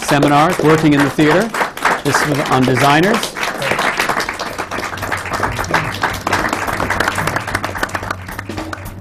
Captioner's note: applause